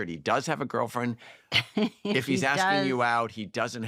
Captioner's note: laughs